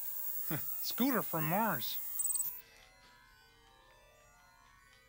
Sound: technology buzzing; laughs

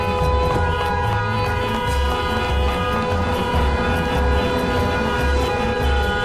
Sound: car horns are stuck in traffic

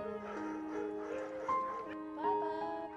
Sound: dog panting; laughs

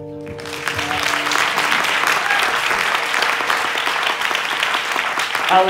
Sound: applause

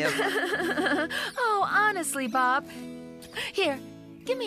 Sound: chuckling

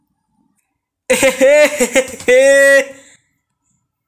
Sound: laughing

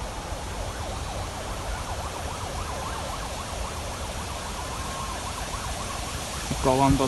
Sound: ambulance siren

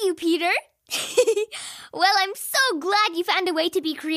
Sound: laughs

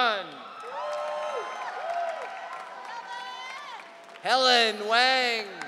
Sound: audience cheering

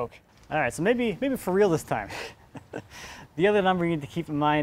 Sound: snickers

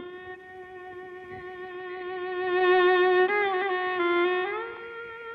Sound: none

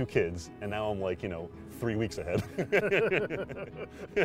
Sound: laugh

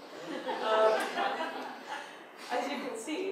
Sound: audience laughs

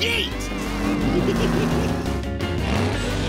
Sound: giggling

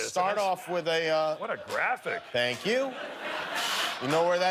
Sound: cheers and applause

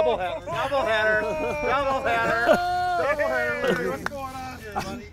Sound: cheering

